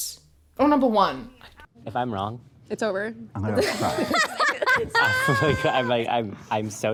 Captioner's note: laughs